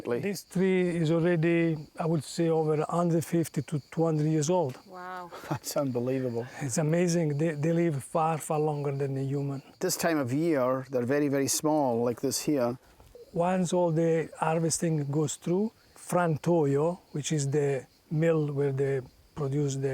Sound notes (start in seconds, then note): 5.2 chuckling